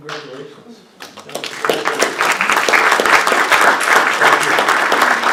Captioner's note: applause